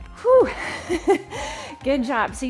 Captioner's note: chuckles